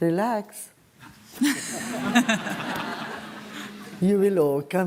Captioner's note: laughter